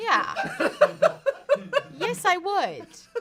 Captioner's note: off-camera laughing